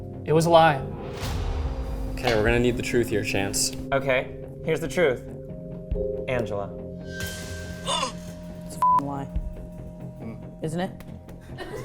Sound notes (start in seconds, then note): 1.0 tense music; 7.1 tense music; 7.9 gasping; 9.3 tense music; 11.5 everyone laughing